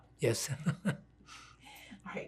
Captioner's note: laughing